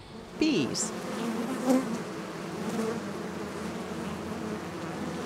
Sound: bees buzzing

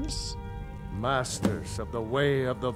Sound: thud

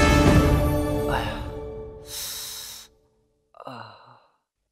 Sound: groans in agony

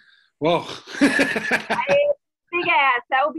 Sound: laughs

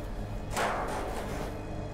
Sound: loud clatter

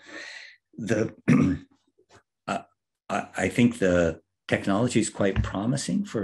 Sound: cough

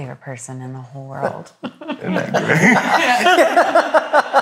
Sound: all laugh

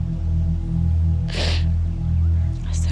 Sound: sniffles

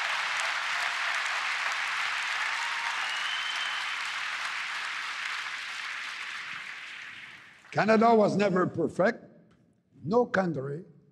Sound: cheering and APPLAUSE

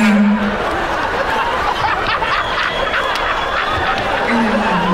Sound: laughing

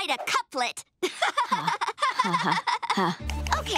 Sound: laughing

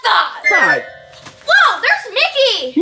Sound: magical playful sound

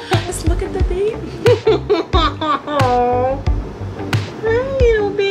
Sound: mom laughing

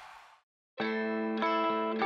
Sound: crowd applauding

